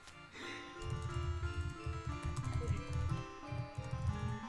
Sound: Types in Discord

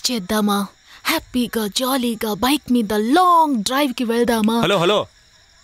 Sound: snaps finger

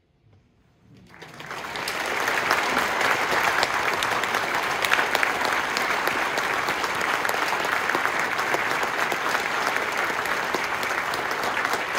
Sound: applause

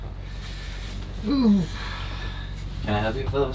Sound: shivering

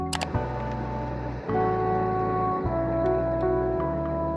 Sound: mouse click

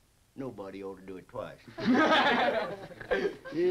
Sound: group laughs

